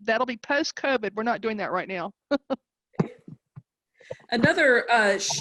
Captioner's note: chuckling